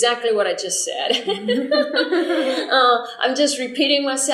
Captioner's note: laughter